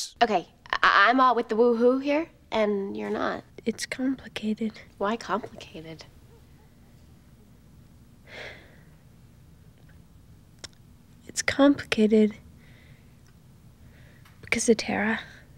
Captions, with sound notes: "Okay, I'm all with the 'woo-hoo' here and you're not." "It's complicated." "Why complicated?" [sigh] "It's complicated..." "...because of Tara."